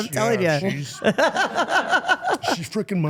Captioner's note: interviewer laughing